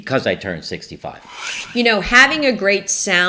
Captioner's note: air whooshing